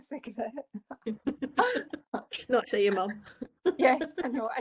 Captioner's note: laughing